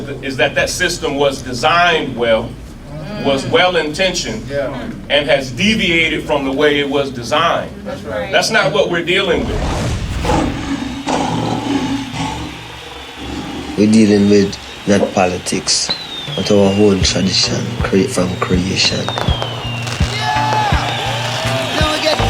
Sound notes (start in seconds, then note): 4.5 crowd; 8.2 crowd; 9.4 lion roars; 19.2 fireworks exploding; 20.0 crowd shouting